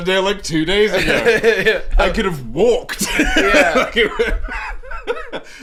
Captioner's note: laughing